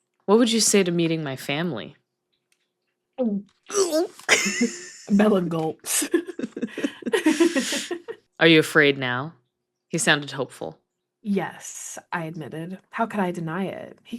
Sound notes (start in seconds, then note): 3.7 gulp